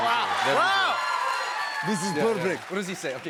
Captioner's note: Russian accent